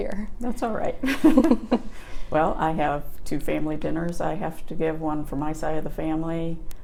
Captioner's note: chuckles